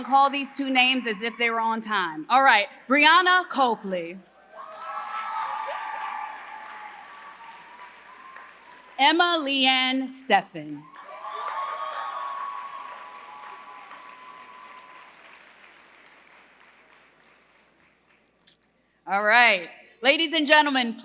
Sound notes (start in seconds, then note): 4.5 applause; 10.8 applause